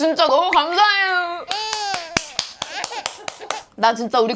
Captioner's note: sob